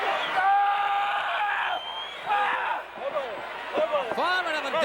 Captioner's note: Vader screaming